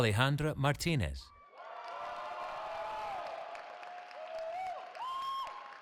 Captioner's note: cheering